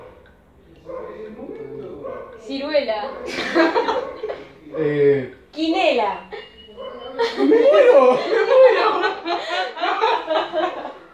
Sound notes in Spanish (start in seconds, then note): 3.2 Risas; 10.3 Risas